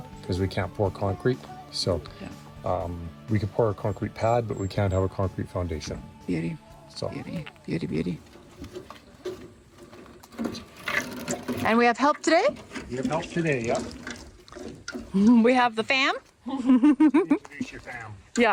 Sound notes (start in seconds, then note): 11.6 metal scraping; 16.4 laughs